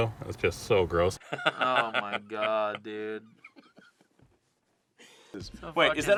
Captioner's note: laughing